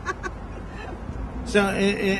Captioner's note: laughs